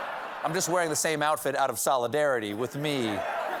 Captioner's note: laughter